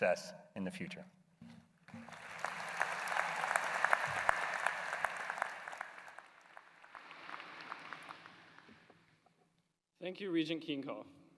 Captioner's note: applause